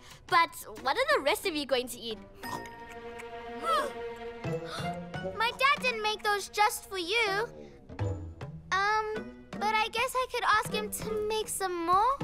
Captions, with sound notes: But what are the rest of you going to eat? - Huh! - (Gasps) My dad didn't make those just for you! Um. But I guess I could ask him make some more.